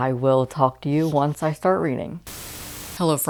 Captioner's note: static Noise